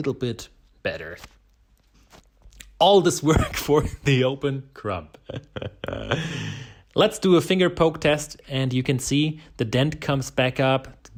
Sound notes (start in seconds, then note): 5.2 laughing